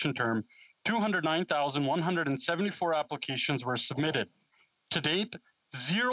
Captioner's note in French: voix de l'interprète